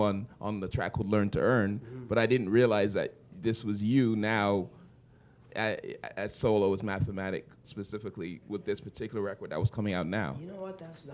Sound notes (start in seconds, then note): none